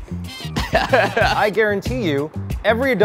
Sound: laughs

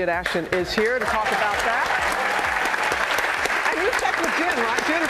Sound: clapping

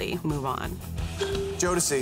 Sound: ding

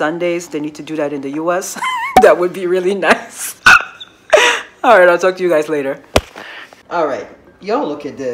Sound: giggles

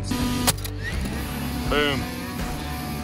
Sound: machine buzzing

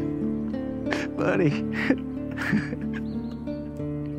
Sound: weeping

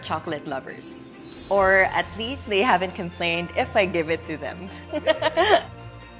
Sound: laugh

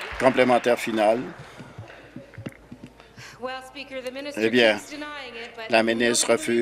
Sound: applause

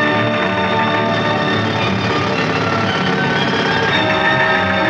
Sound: drilling

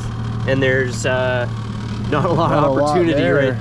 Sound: laughing

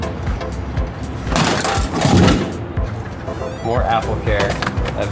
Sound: machine thudding

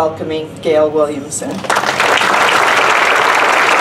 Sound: applause

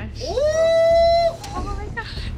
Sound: screaming

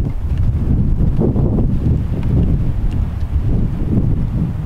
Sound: wind howls

